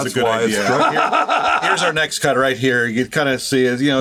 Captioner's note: laughs